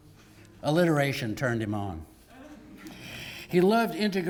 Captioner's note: laugh